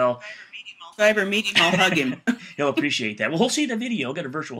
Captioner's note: laughs